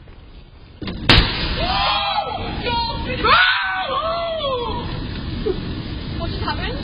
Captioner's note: screaming